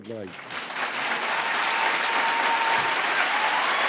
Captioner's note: applause